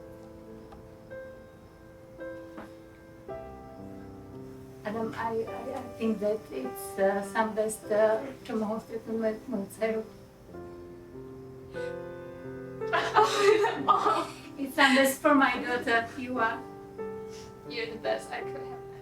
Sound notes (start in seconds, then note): 0.0 pausing to gather herself; 8.1 speaking Slovak